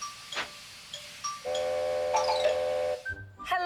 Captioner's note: train horn blowing